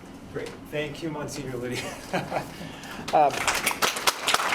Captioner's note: laughs; audience applauds